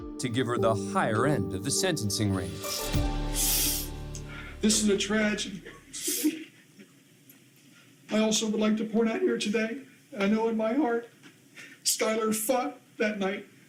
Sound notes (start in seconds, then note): 3.3 sniffling; 5.5 sobbing